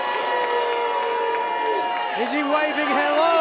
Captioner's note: cheers and boos